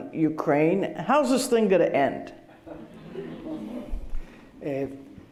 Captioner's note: laughter